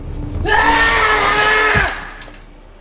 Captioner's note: yelling, screams